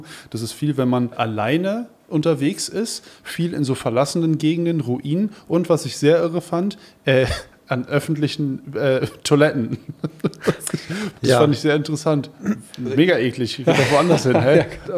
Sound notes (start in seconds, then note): 9.7 Lachen